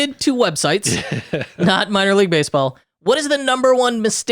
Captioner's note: laughing